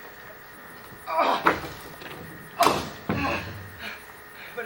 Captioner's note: Robin moans